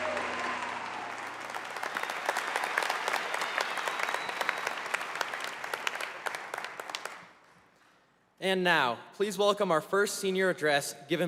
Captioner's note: applause